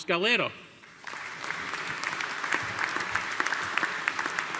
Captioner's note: audience applauding